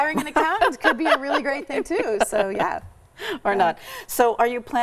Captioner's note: laughs